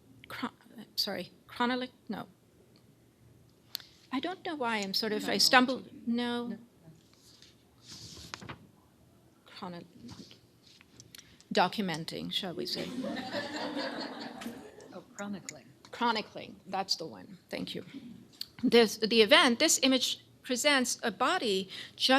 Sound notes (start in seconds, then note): 12.8 laughter